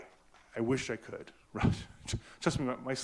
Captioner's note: laughs